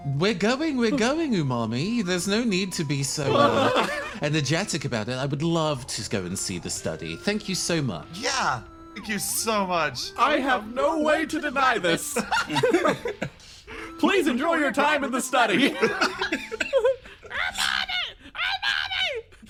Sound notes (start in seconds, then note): 10.8 laughs; 15.4 laughs